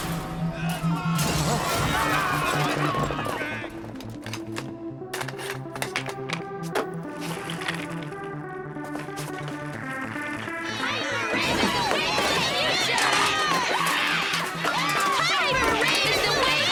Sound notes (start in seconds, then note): 1.9 yelling